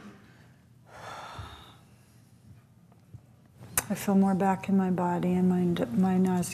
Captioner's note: sighs